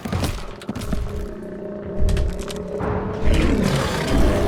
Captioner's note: bodies thumping; zombie spartacus growling